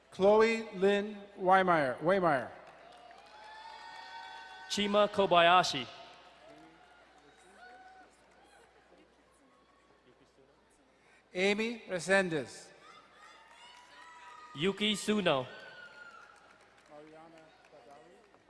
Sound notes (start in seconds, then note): 2.6 crowd cheering and applauding; 6.3 distant cheering; 12.7 distant cheering